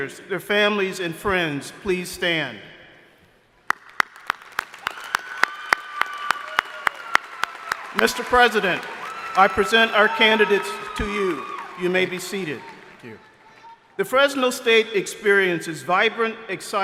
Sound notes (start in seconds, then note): 4.0 crowd applauding